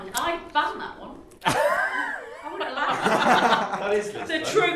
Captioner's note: laughter